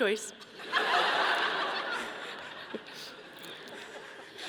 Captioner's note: audience laughing